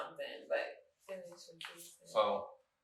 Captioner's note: speaking faintly